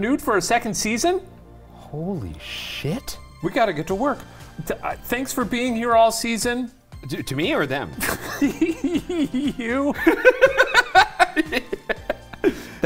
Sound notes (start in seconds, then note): 8.0 laughs; 10.2 laughing